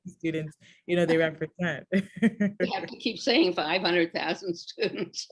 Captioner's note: laughs